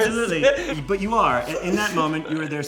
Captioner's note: Tan laughs